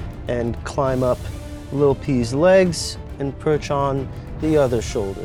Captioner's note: none